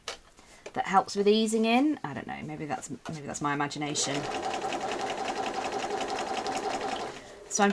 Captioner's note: sewing